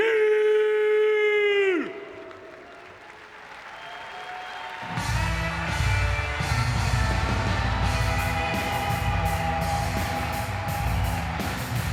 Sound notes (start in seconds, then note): 1.9 audience clapping; 4.9 upbeat music